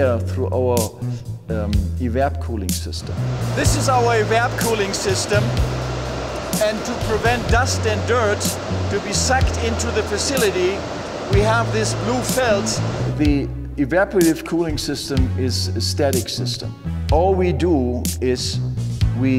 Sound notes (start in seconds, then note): 3.1 fans whirring; 13.2 dramatic upbeat music